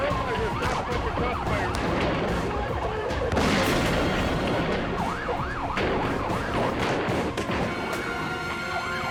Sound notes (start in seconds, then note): 3.2 guns fire; 3.2 dramatic music